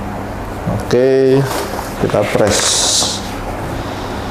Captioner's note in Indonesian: suara kertas pelindung